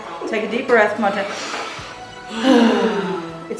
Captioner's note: inhale, exhale